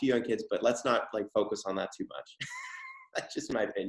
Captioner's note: laughs